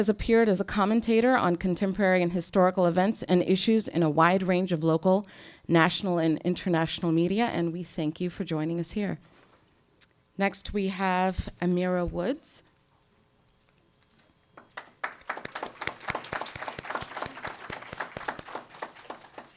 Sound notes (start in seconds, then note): 14.5 applause